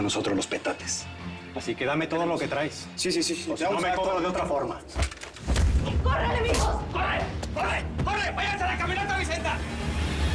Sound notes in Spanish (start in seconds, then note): 6.4 Puñetazos